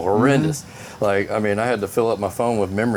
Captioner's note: laughs